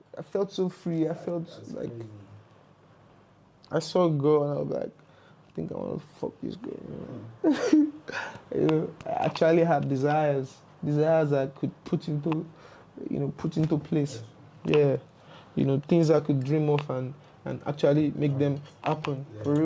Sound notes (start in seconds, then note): 6.6 laughs